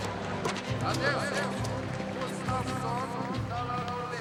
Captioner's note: announcer speaks in foreign language